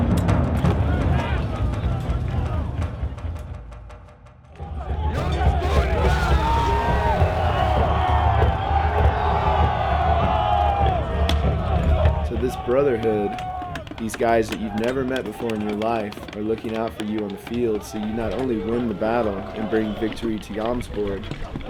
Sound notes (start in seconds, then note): 6.3 shouting, cheering